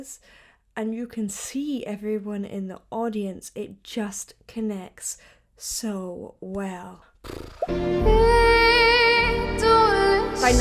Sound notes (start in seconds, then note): 7.2 lips flutter; 8.5 sings in French